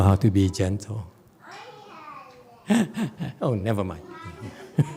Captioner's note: laughs